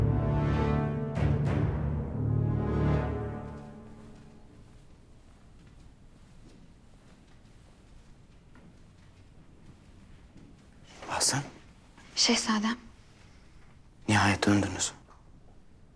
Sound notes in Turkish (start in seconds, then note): 4.4 Ayak sesleri